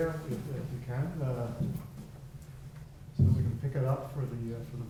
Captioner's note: faintly speaking